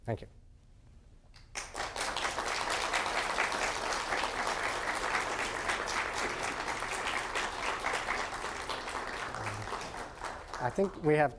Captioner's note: applause from audience